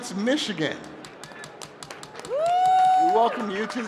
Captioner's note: cheering